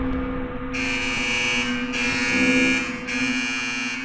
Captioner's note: siren ringing